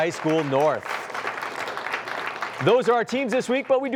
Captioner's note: applause